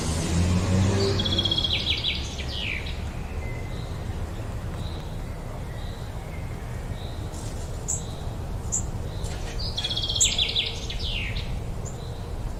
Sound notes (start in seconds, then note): 1.4 birds chirping